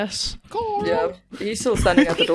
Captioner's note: whispering; giggles